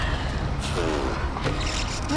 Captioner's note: laughs; blows lips